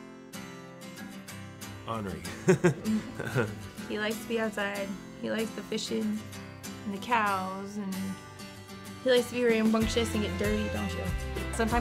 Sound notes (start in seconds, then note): 0.4 light music; 2.1 laughs